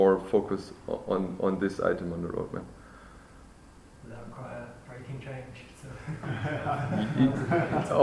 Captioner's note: laughter